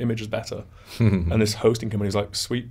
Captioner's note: chuckles